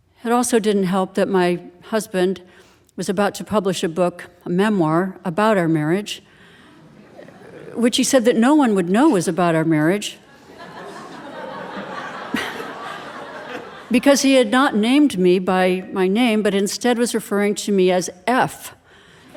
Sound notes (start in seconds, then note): 10.3 audience laughing